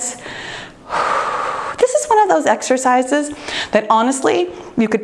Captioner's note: exhales